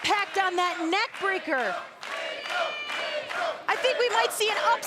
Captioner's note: applause